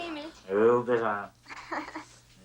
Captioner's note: laughs